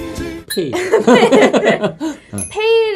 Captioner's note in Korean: 웃음